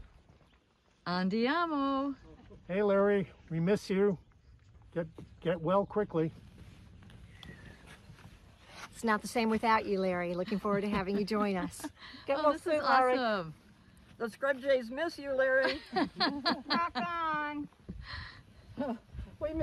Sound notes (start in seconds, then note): 10.4 laughter